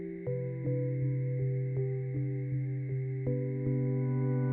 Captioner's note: none